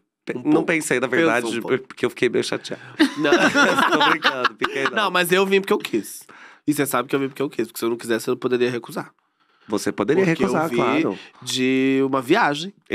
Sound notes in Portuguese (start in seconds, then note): 3.0 risos